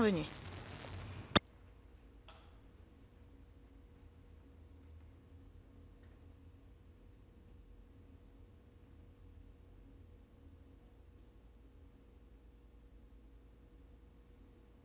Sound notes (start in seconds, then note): 3.4 moment of Silence